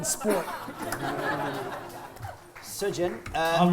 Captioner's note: laughter